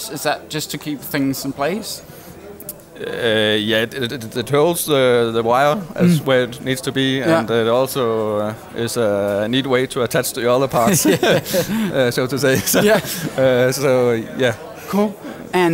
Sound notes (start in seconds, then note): 10.8 both laughing